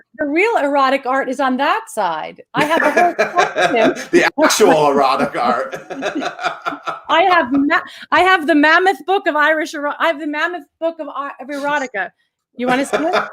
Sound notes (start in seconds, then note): 2.6 laughs